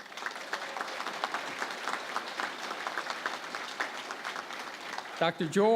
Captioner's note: applause